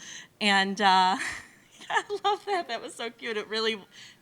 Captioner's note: laughs